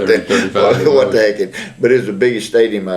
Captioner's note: laughs